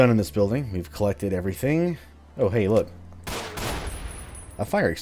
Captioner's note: Glock fires, extinguisher explodes